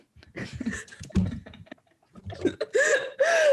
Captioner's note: laughing